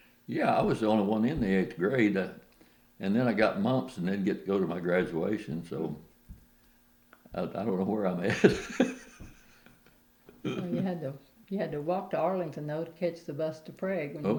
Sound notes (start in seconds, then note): 10.4 laughs